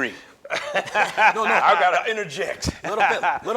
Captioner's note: laughs